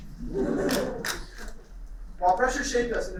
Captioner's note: laughter